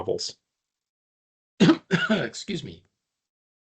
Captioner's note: coughing